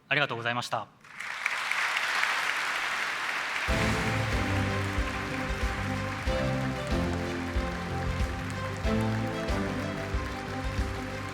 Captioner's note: applause